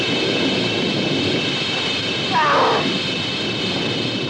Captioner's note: struggling sounds